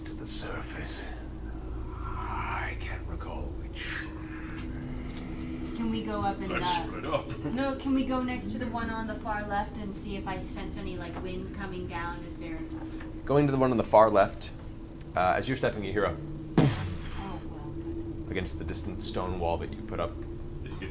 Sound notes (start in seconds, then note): 16.5 muffled impact noise